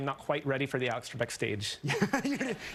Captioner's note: laughter